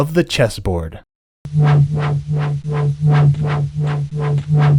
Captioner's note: strange pulsating sound plays